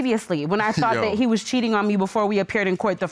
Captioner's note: chuckles